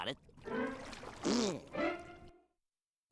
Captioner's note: jeers